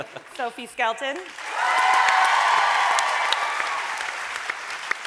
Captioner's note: audience cheering